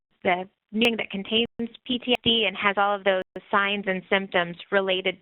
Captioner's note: audio skips